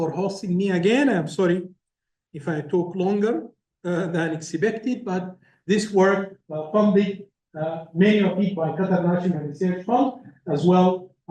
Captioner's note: laugh